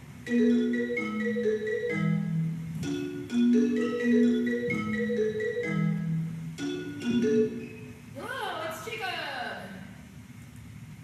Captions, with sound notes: [Generic Apple ringtone] [ringtone cuts out] Yello, it's Jacob!